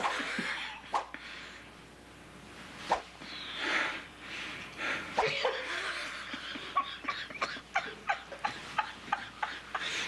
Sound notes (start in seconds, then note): 2.5 woush!; 3.7 woush! Woush!; 5.2 rires